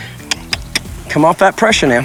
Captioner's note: mouth clicking